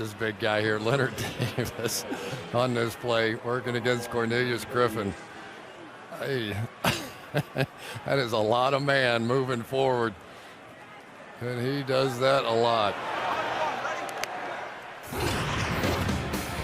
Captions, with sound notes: Just watch this big guy here, Leonard Davis on this play, working against Cornelius Griffin. Hey-- [laughs] that is a lot of man moving forward. And he does that a lot.